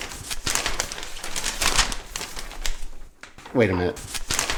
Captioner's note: paper rustling